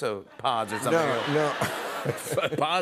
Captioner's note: laughter